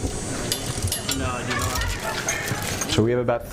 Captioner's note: ratcheting wrench